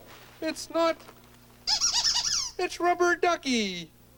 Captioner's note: squeaking